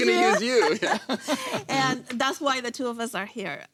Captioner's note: laughs